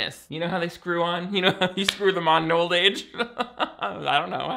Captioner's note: laughing